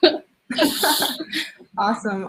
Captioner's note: both chuckling